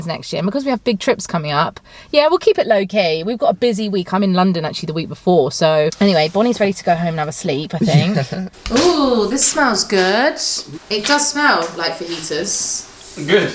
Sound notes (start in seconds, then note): 7.7 chuckles